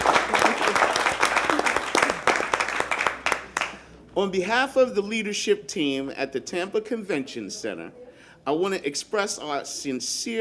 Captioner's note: applause